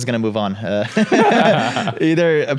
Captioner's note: laugh